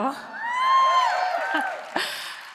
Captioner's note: applause and cheering